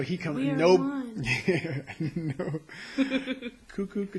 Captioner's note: laughing